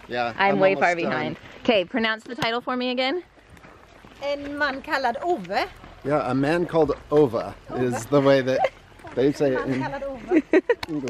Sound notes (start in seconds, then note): 4.5 with Swedish accent; 7.3 with American accent